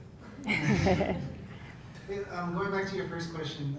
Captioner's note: laugh